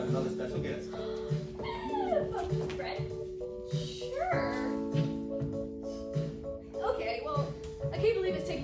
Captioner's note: gasp